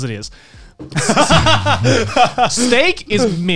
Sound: laughs

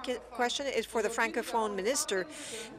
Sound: speaking in French

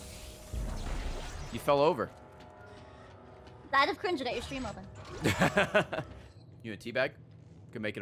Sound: laughs

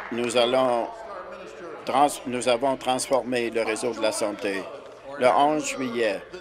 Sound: applause

